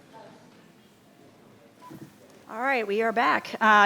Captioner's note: attendees chattering ends